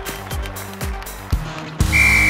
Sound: cheers and applause; whistle

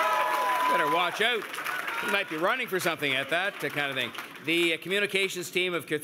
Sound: cheers and Applause

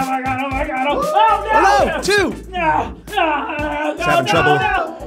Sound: shouting

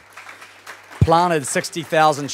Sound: applauding

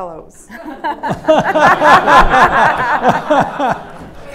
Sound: laughter

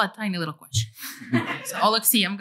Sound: laughter

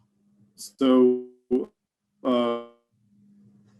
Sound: audio warbles

